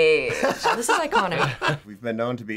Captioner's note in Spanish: risas